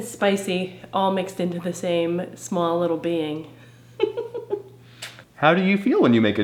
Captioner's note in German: lacht